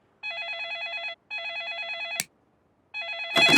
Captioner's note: phone ringing